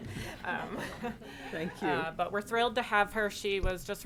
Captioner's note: all laughing